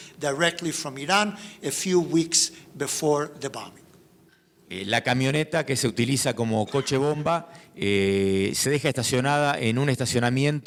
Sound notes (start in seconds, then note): 4.9 speaking in foreign language